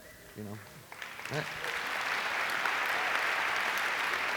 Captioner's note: applause